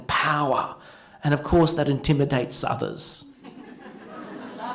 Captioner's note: laughter